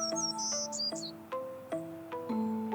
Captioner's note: birds chirping